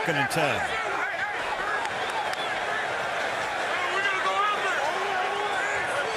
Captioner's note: shouting; shouting